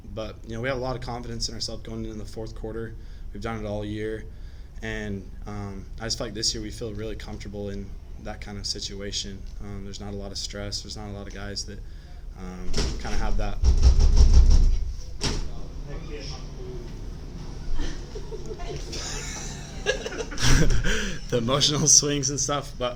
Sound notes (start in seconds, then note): 12.7 door banging